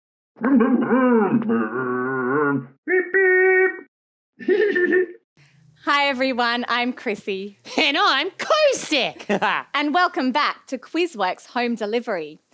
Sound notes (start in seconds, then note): 0.6 Scruff makes scooter noises; 4.4 Scruff laughs; 9.0 Cosec laughs